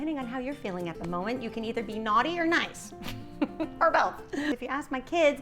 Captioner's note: giggling